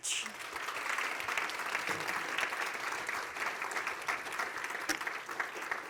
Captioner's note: applause